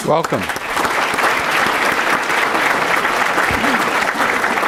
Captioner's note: applause